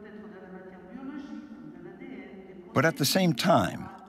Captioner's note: speaking in foreign language